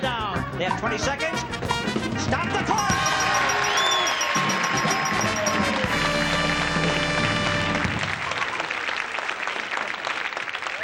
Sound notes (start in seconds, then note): 2.7 bell dings; 5.9 audience claps and cheers